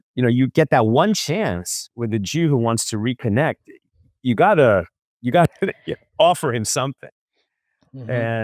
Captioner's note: laughs